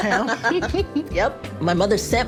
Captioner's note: laughter